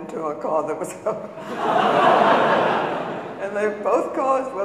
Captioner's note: audience laughing